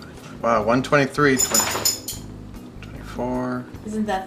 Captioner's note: dog tag clanking